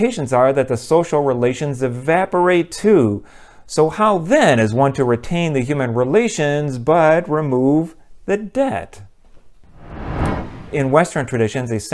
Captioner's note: swoosh